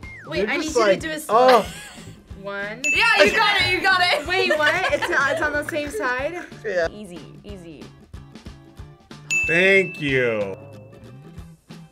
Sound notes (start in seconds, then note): 3.2 laughs; 9.3 bell rings